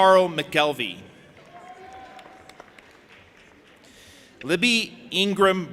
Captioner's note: audience applauding and cheering